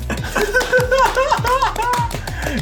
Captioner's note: laughs